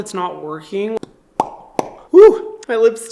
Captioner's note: smacking lips together